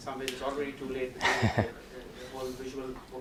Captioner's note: laughs